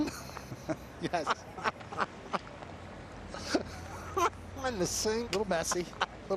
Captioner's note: laughter